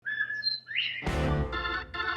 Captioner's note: bobwhite quail whistle